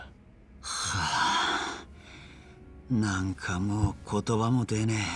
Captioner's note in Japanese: ため息